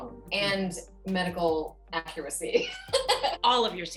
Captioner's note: laughs